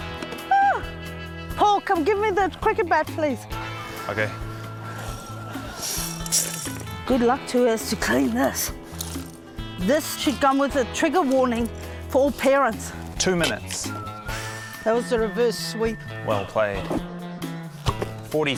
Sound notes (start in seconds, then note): 0.5 yelps